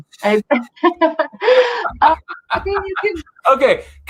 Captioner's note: both laughing